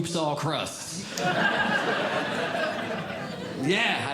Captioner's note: audience Laughing